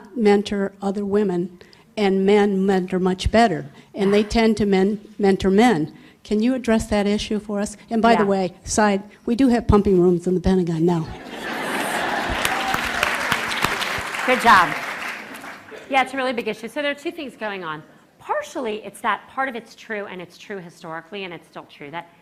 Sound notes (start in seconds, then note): 11.1 laughter; 11.7 applause